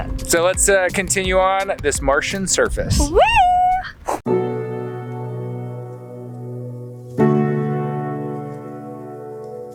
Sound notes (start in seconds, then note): 3.0 cheers; 4.4 pop music